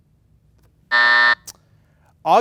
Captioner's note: buzzer buzzing